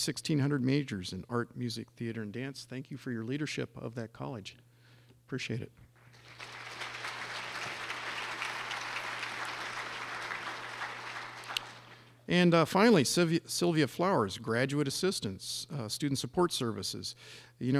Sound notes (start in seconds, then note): 5.9 clapping